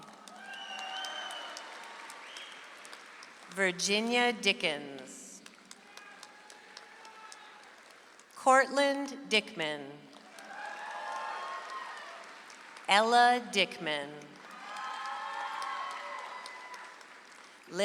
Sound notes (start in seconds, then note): 0.0 audience applauds; 10.0 audience applauds